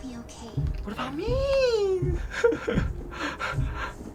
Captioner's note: whining